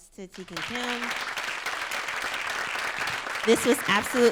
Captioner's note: applause